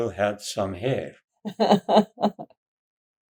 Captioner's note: laughing